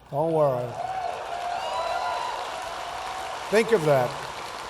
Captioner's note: applause